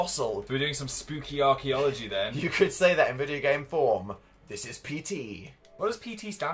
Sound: laughs

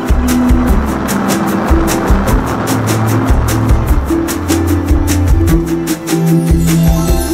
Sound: rocket engines roaring; magical harp sound

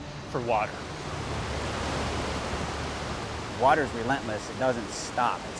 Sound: water rushing

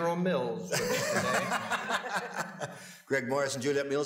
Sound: laughs

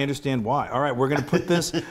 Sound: laugh

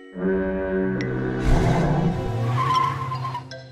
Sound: engine roar; tires screeching

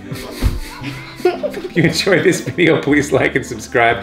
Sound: giggles

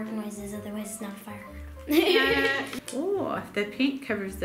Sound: laughs

